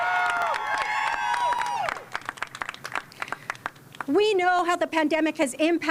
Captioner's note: cheers and applause